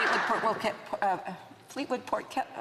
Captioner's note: some Applause